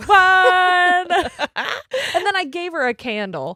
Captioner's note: both laughing